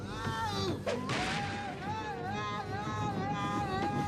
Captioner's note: screaming